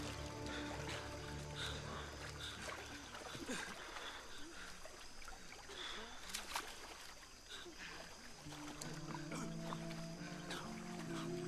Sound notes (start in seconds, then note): 0.2 breathing heavily